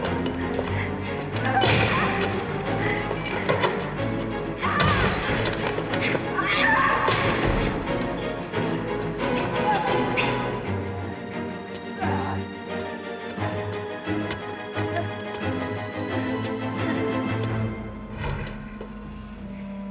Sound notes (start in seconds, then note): 2.0 breaking bottles; 9.0 tense music; 13.4 Freddie struggling